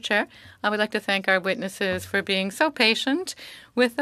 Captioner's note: speaking French